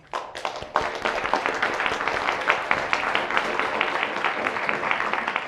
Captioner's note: audience applauding